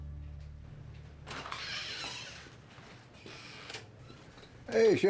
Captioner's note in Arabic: يفتح الباب صريرًا